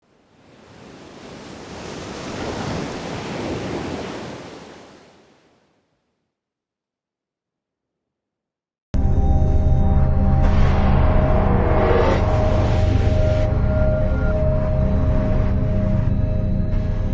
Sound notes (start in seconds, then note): 0.0 waves Crashing; 8.9 suspenseful Music